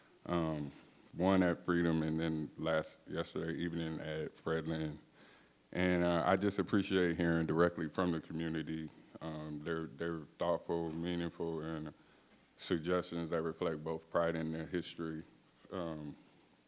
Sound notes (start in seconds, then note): none